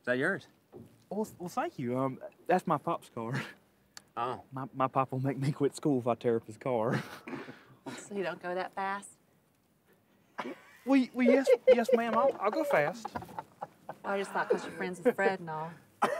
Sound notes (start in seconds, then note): 12.6 laughter